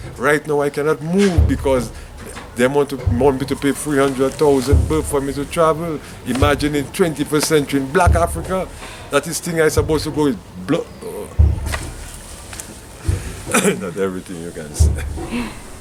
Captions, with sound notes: Right now, I could not move. Because, them want me to pay 300,000 Ethiopian Birr for me to travel. Imagine in 21st century, in black Africa!? That isn’t how it’s supposed to go...[tears]... ....not everything you can say.